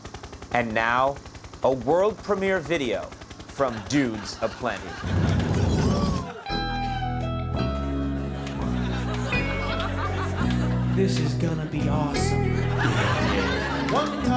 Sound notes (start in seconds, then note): 5.6 audience laughing; 6.4 slow country music